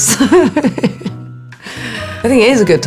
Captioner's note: Alexa chuckling